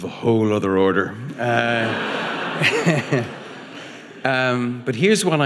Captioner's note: audience laughing